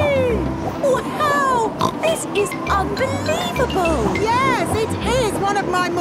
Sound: snorts

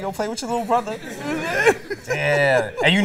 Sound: laughter

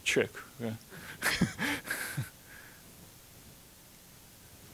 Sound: chuckling

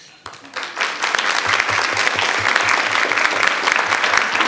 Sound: audience applauding

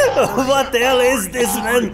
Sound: boing

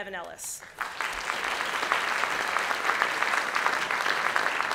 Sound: audience clapping

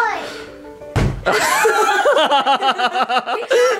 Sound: laughing

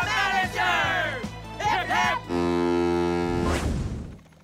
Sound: honking

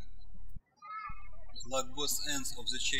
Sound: birds chirping

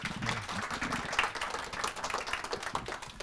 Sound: applause

